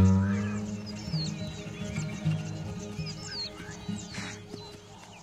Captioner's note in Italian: musica strumentale; cinguettii